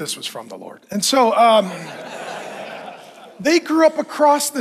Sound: audience laughing

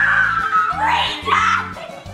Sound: screams

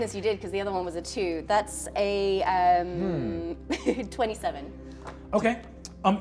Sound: chuckles

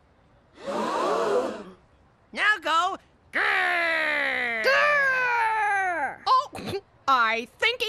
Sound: crowd gasps

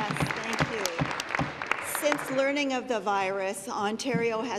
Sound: applause

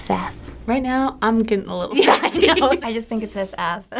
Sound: laughing

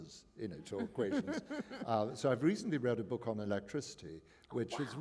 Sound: chuckle

